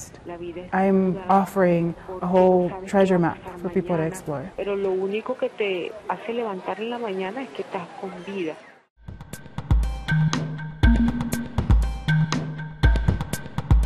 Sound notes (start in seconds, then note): 4.6 woman speaking world language